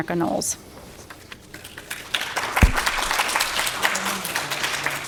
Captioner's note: applause